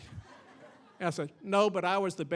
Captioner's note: audience laughing